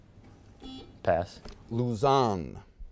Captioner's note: buzzer beeping